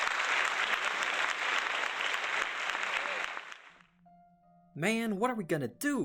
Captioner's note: applause; somber music